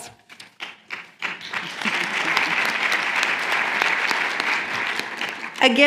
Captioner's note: applause